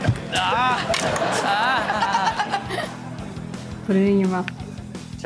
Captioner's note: audience laughs